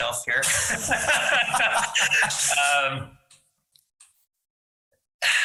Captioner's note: laughing